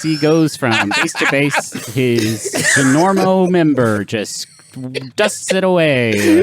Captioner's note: laughs